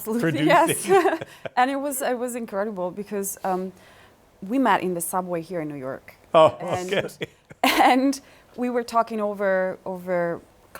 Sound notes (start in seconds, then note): 6.4 laughs; 6.4 chuckles